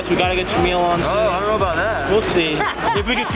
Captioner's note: laughs